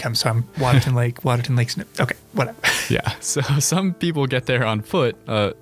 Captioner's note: laughing